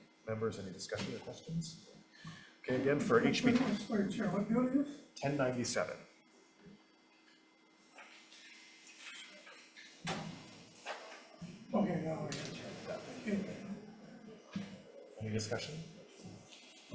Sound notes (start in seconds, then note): 8.9 papers shuffling; 10.1 door thuds